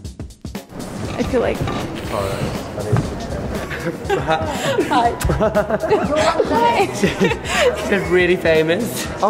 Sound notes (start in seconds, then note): 1.8 hissing; 5.6 laughing